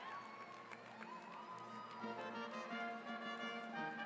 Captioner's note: cheering